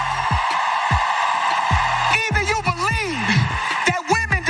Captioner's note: applause